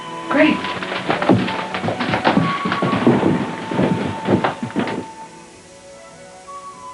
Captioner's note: footsteps